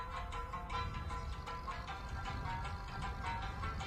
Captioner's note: engine revving